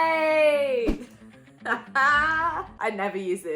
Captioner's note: laughing